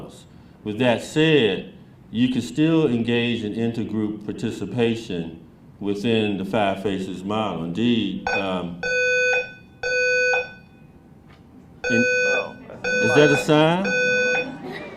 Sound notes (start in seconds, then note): 8.7 alarm sounds